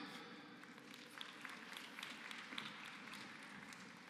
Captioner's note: applause